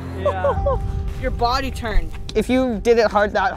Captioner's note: laughter